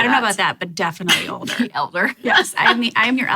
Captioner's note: laughs